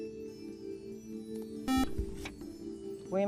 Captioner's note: buzzer